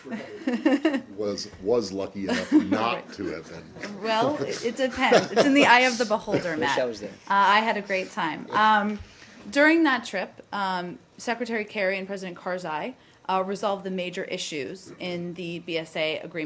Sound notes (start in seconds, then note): 0.0 laughter; 2.2 laughter